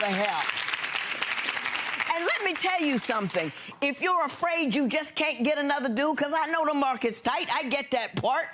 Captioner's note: audience clapping